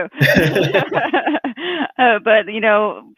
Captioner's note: laughs